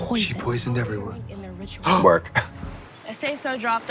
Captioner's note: giggles